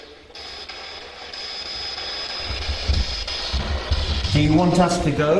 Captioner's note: static buzzing